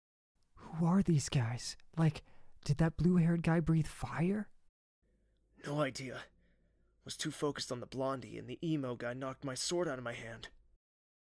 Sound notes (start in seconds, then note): 0.8 whisper; 5.8 whisper